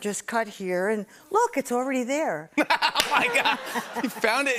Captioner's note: laughs